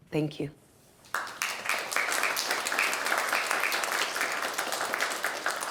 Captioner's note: audience clapping